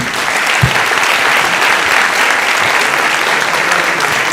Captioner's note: audience applauding